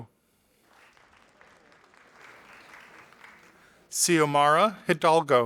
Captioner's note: audience applauding